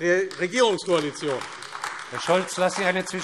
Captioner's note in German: Beifall AfD